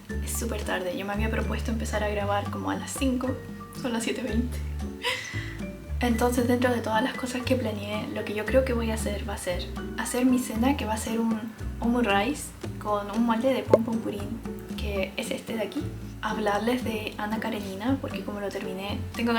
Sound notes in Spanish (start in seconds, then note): 5.0 risas